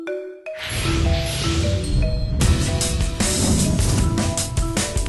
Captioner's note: engine revving